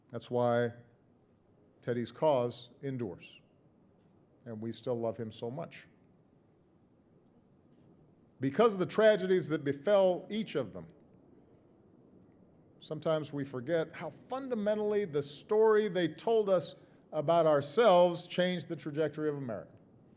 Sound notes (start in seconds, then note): none